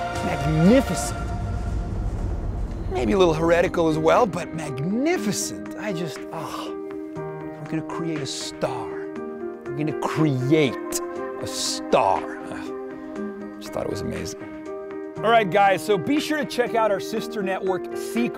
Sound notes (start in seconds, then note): 6.3 sighs